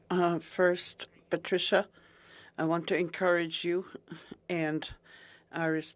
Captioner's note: speaking French